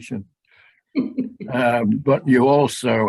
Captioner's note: chuckles